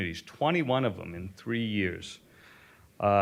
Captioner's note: none